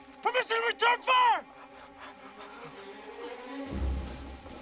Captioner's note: panting